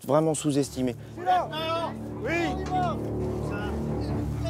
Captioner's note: soldier screams